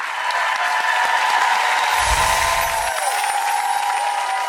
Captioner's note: audience applause